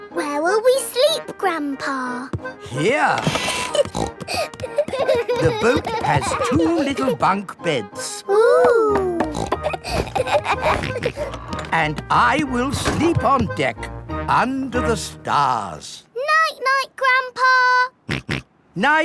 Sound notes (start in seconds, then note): 3.2 snorting; 3.4 kids giggling; 9.1 snorts, laughs; 18.2 snorts